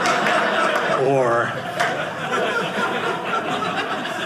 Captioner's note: audience laughing